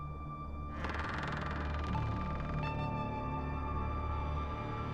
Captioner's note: slow creaking door